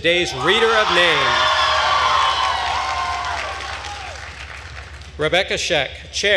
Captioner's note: attendees cheering and applauding